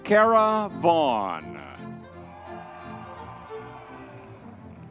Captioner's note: crowd cheering